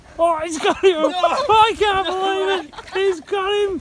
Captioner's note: laughing